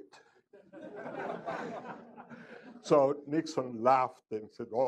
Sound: laughter

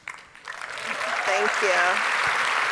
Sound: audience applauding

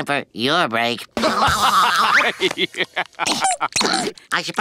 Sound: laughing

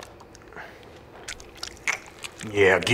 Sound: squelch

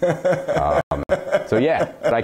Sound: laughter

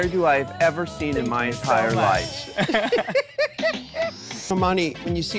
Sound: RuPaul and Crystal laugh

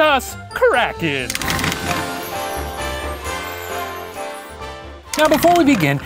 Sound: rattling; sleigh bells

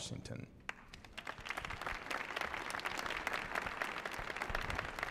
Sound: audience applauding

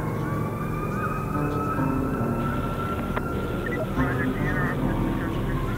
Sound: sirens; radio

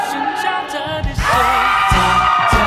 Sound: screams

